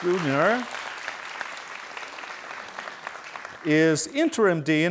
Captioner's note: students applauding